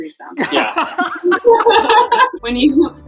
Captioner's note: laughter